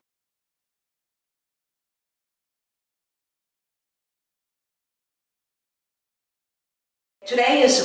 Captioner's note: silence